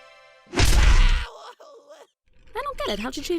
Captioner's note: test tube screams